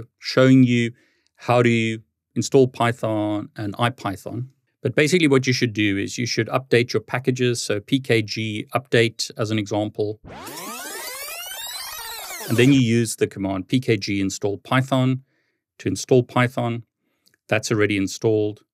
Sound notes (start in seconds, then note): 10.2 tape whirring